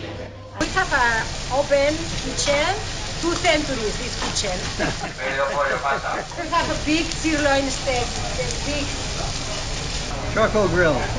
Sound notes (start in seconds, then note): 1.9 laughs